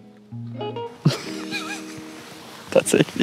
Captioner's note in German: lacht